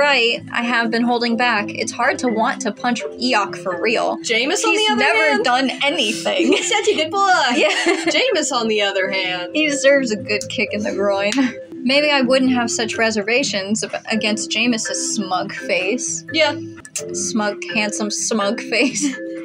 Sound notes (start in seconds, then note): 6.0 laugh